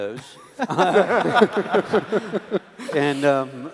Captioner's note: laughs